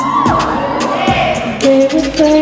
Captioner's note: cheering